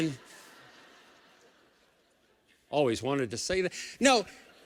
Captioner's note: laughing